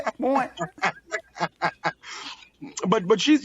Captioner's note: laughs